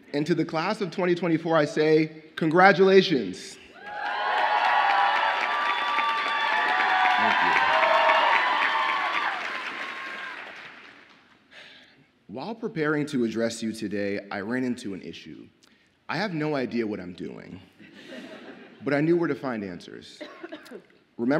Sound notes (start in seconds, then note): 3.8 audience applauds and cheers; 17.9 audience laughs